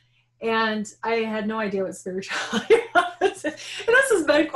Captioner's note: laughing